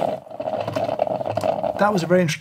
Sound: coffee brewing

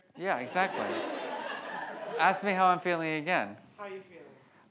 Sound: audience laughs

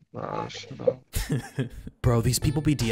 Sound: laughing

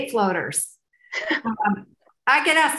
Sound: laughs

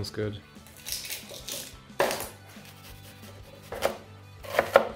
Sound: knife chopping on board

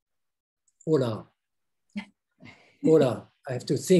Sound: speaks foreign language

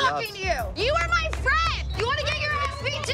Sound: claps

